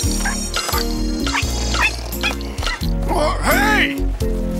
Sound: mouse squeaking

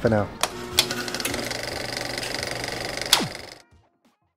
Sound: film reel clicks

